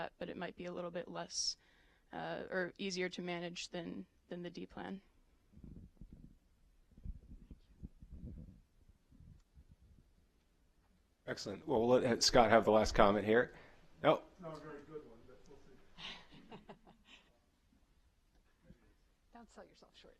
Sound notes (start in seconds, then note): 16.0 laughter